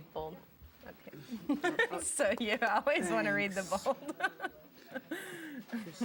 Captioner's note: laughing